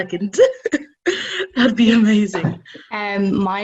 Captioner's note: laughing